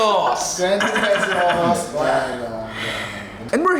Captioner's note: laughs